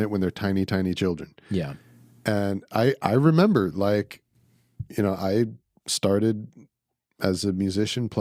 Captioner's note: none